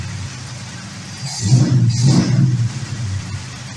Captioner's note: engine revs